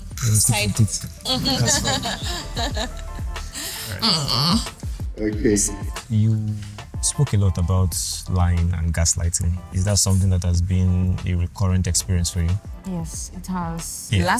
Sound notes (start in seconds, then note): 1.2 laughs